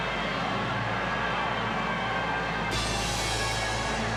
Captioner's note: crowd roars